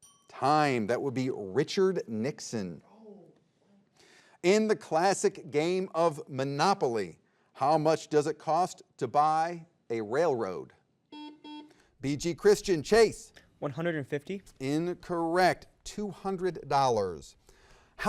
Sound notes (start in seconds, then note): 11.1 buzzer beeps